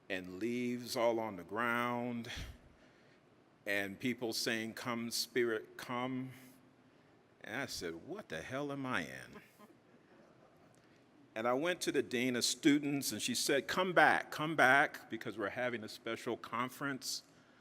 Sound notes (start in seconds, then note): 10.2 audience chuckling